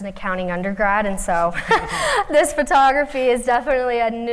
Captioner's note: laughter